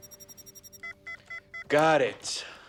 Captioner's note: beeping